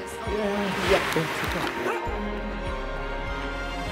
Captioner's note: non-english speech